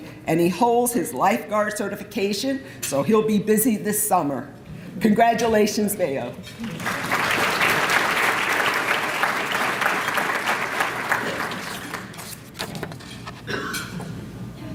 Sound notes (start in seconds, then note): 6.5 applause